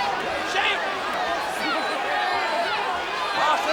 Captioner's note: crowd yelling